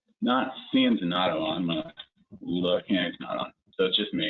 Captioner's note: broken speech